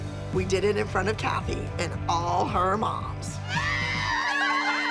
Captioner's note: cheering